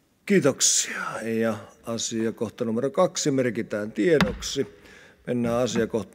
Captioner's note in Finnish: kopauttaa nuijaa